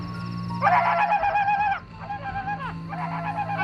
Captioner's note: yelling